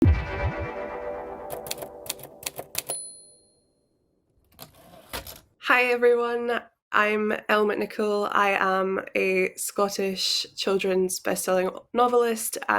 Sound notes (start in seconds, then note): 0.0 music crescendo; 1.8 keys clacking; 2.8 bell dings; 4.8 drawer clicks